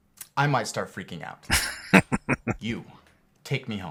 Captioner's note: laughing